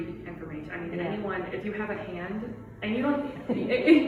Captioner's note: participant laughs